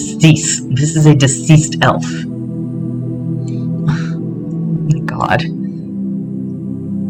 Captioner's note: scoff